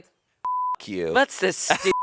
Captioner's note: beep